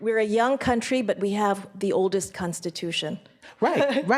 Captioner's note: laughs